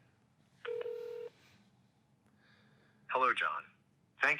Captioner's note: phone beeping